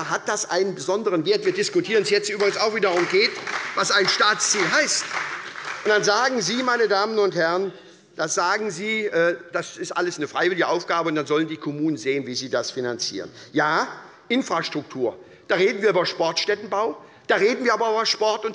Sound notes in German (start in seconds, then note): 6.2 Beifall bei der SPD